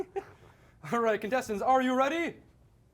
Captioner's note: laughing